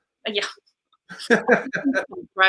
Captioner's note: laughs